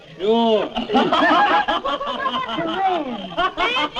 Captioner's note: laughter